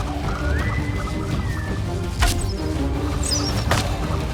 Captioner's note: speaks tribal language